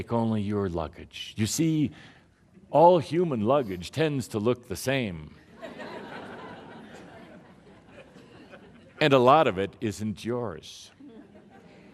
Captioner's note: laughter